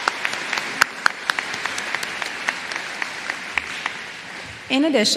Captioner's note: applause